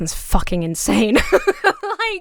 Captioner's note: laughs